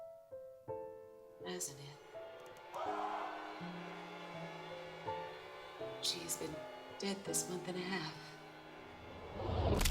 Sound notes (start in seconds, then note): 2.4 screaming